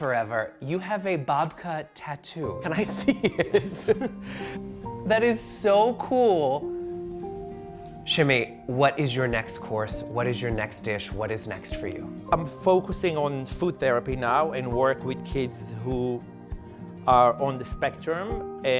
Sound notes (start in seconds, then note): 2.8 laughing; 5.8 gentle music